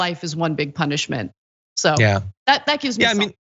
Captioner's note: laugh